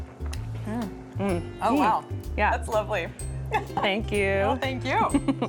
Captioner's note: giggles